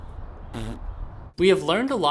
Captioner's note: blowing raspberry